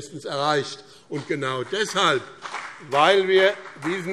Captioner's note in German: Beifall BÜNDNIS 90/DIE GRÜNEN und CDU